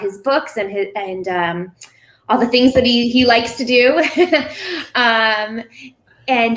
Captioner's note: laughing